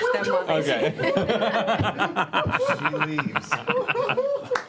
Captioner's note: laughter